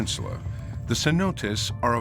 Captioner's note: none